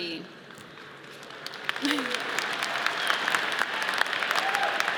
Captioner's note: audience applauds